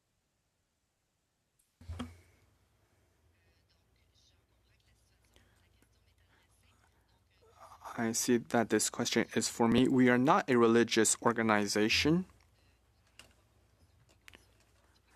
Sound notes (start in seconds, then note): 6.8 speaking French